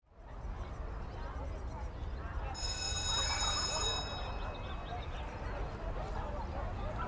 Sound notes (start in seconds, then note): 0.8 people chattering; 2.6 bell ringing